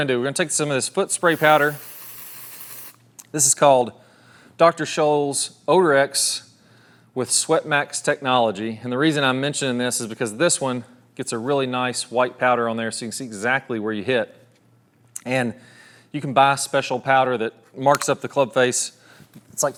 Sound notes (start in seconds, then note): 1.2 can sprays